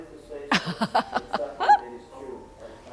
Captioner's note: laughter